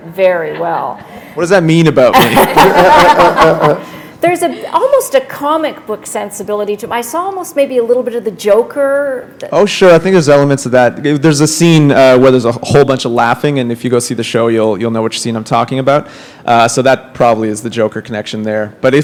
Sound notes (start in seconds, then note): 2.1 laughter